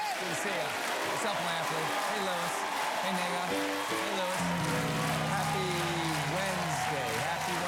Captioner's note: cheers and applause